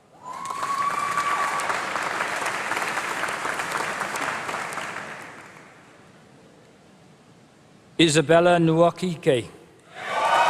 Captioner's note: applause; applause